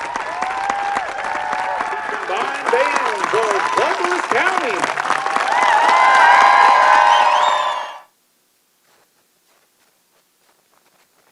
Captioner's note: applause